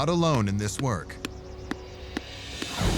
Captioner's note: soft thuds